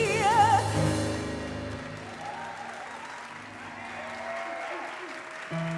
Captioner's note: audience applause